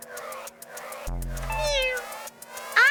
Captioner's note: cat Meows